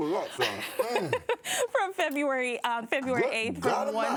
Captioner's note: laughing